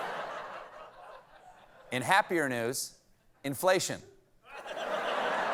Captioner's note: laughter